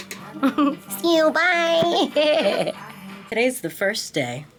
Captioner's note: laughing